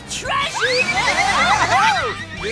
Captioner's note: screaming